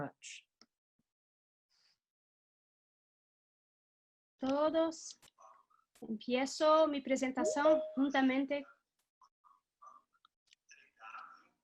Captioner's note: speaking in Spanish